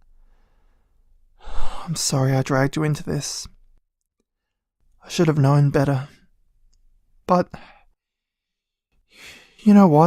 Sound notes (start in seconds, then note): 1.4 sigh